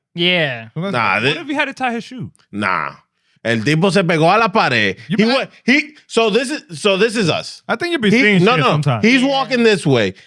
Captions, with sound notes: Yeah. What if he had to tie his shoe? Nah. And (Speaking In Foreign Language) So this is us. I think you'd be seeing you sometime. He's walking this way.